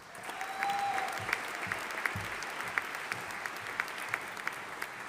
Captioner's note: audience applauding